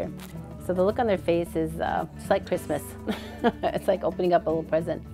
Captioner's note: laughs